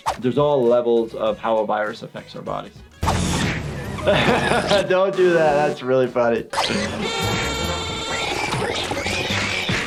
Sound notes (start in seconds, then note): 3.4 harsh vacuuming; 5.1 laughs